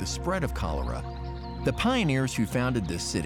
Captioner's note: birds chirping